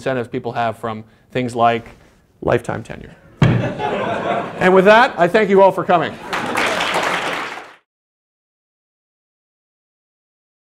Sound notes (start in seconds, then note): 6.2 applause